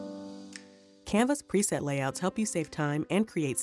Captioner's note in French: Voix off